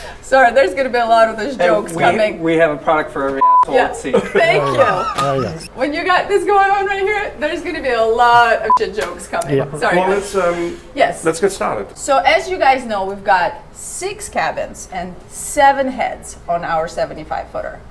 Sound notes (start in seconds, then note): 3.4 beep; 4.0 laughing; 8.6 beep